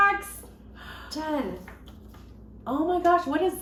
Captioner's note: gasps